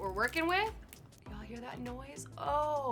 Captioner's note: spanakopita crackling